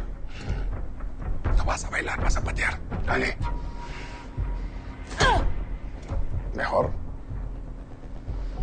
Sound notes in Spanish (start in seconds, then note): 4.8 Gruñido